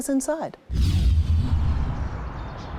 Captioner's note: transition whooshing; birds chirping